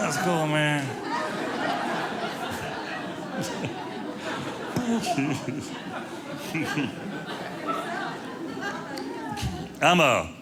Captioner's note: audience laughing